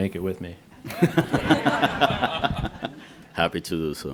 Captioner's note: laughter